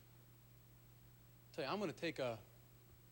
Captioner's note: none